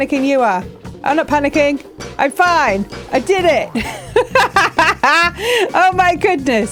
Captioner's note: laughing